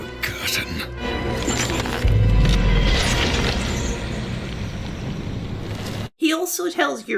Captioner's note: head crushing noises